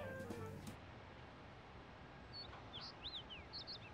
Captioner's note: birds chirping